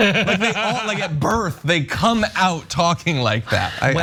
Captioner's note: laugh